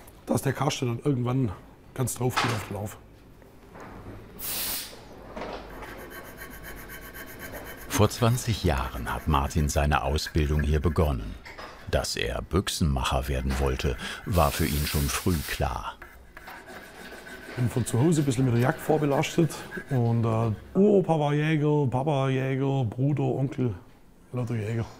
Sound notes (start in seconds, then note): 4.4 short hissing sound; 5.6 rubbing